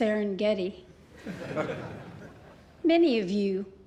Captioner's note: laughter